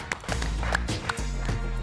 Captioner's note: applauses